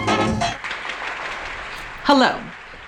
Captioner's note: audience applauds